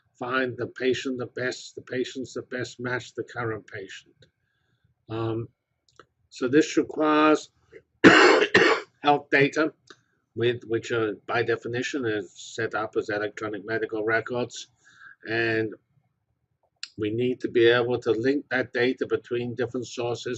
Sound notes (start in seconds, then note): 8.0 cough